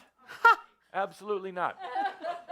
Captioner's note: laughter